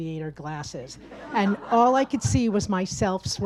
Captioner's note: audience laughs